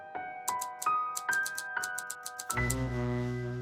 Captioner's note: typewriter clicks